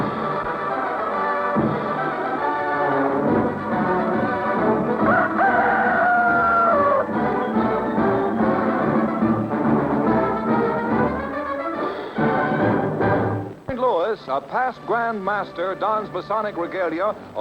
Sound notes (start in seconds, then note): 5.0 rooster crow